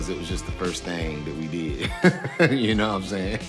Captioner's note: laughing